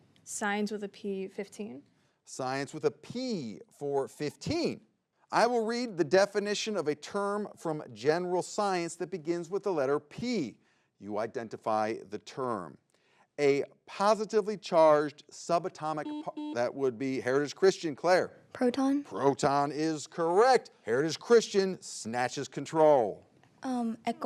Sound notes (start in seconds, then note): 16.0 button blips